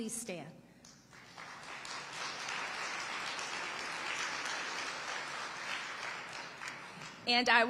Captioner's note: audience applauding